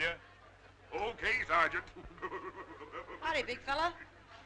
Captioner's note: laughing